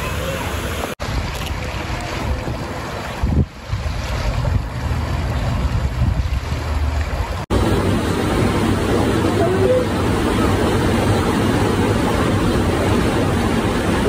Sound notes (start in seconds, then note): 0.0 water rushing, kids yelling in background; 0.9 water flowing, wind; 8.4 water flowing loudly, kids talking inaudibly in background